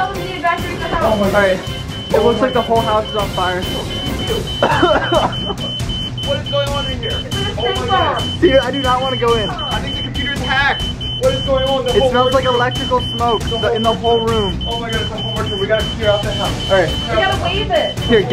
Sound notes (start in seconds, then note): 3.8 beeping; 3.8 coughing